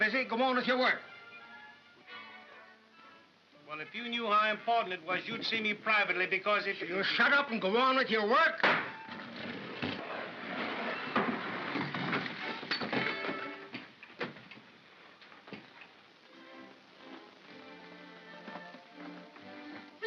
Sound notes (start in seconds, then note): 8.6 bang; 9.1 sliding sound; 10.3 sliding sound & liquid sloshing; 16.1 soft music